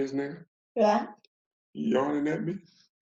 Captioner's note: yawns